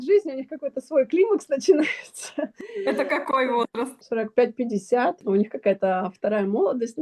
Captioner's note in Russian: смех